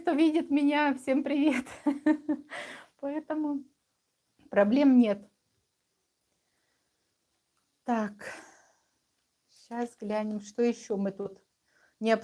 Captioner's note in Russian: смех